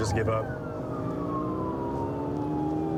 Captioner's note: siren blaring